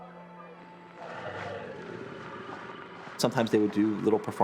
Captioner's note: alligator growling